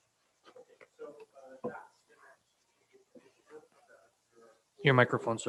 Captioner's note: faintly speaking